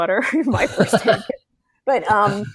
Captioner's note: laughs